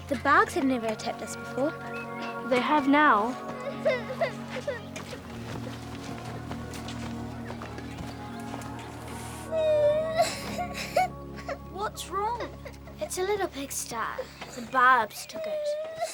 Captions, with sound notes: the Barbs have never attacked us before? - They have now. (Sal crying) - What's wrong? - It's her little pig, Star, the Barbs took it.